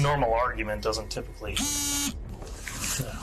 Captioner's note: phone vibrates